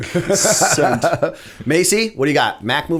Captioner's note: laughter